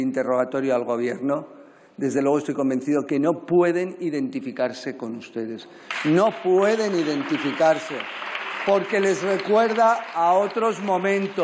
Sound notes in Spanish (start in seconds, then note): 5.8 Aplausos